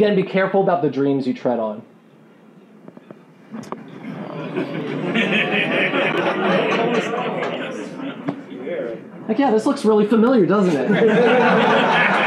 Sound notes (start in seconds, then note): 3.4 groaning; 11.0 laughing and clapping